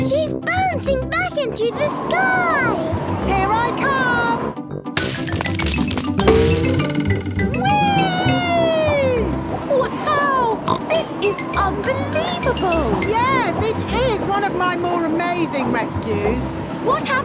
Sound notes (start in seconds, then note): 10.2 snorts